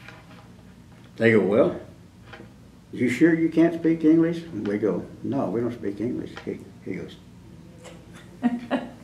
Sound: laughter

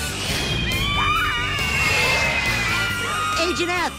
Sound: girls screaming

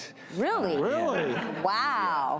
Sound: audience laughs

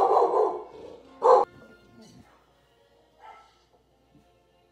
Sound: dog bark; dog bark on laptop

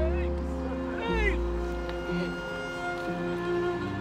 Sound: men chatter

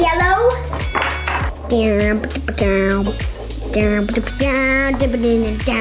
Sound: glass bowl clatters; imitates suspenseful music

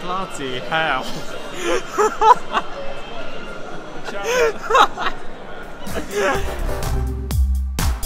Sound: laughing

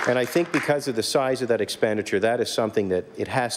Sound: applause

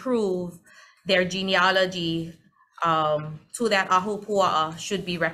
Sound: speaks foreign language

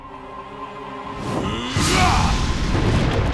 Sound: grunting

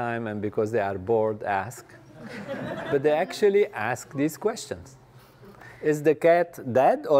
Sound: laugh

